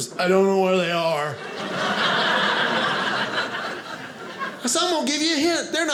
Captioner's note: audience laughing